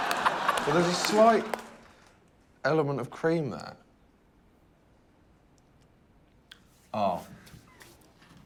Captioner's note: laughter